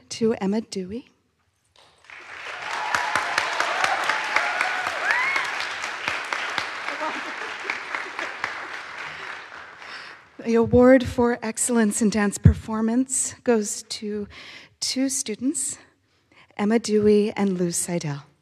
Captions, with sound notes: to Emma Dewey. (audience applauds) (audience cheers) The Award for Excellence in Dance Performance goes to two students, Emma Dewey and Lou Sydel.